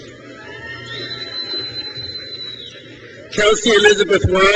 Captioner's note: crowd cheers